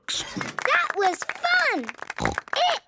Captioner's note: applause